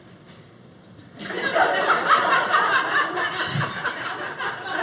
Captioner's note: audience laughing